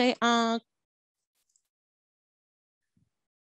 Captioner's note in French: silence